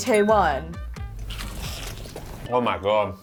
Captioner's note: munching loudly